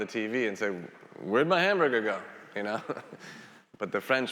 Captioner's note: laughs